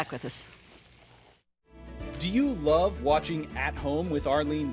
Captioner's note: food sizzling